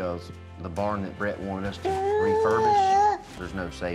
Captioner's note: giggles